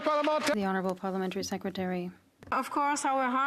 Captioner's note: some Applause